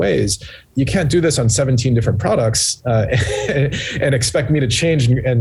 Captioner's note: chuckling